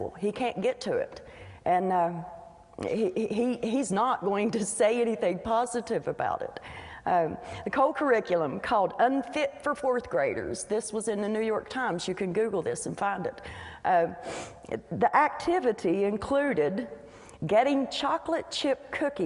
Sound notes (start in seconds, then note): none